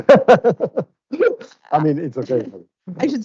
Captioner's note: laughing